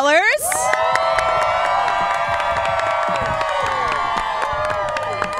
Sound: crowd cheering and clapping

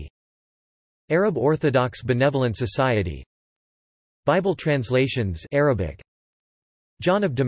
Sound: Arabic

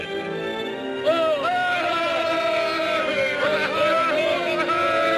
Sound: crowd cheering

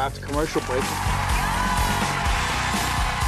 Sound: audience applause

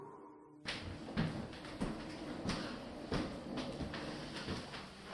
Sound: footsteps approaching

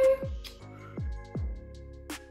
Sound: blows kiss; upbeat music

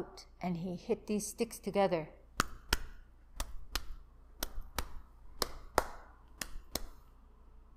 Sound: tapping

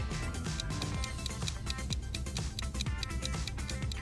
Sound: ticking

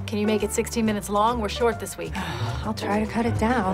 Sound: sighs

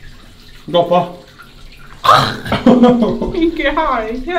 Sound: laughing

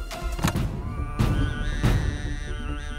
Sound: car trunk opening

